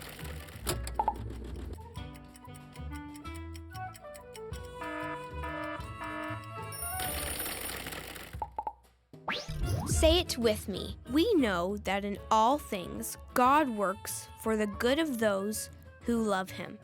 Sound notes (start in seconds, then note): 4.8 alarm blaring